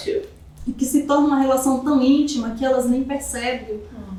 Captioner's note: speaking portuguese